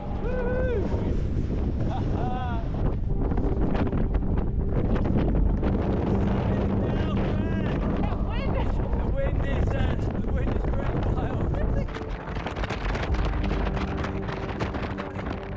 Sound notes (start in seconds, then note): 1.9 laughing; 12.4 wind blowing